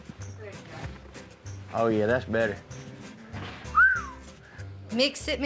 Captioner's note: whistles